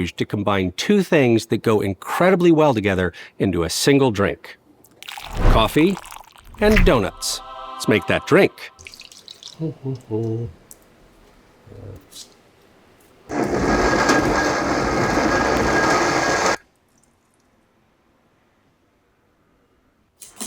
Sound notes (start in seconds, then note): 5.0 liquid gurgling; 6.8 whimsical music; 9.0 liquid gurgling; 9.9 humming; 13.3 blender roaring